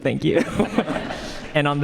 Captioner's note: audience laughs